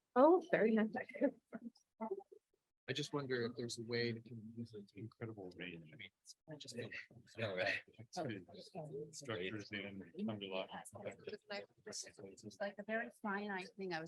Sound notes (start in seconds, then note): 1.7 faintly speaking; 5.7 faintly speaking; 8.2 panelists chattering